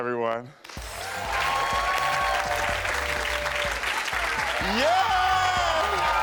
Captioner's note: audience cheering and applauding